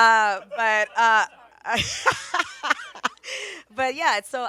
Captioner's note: laughs